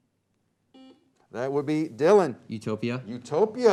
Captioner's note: beep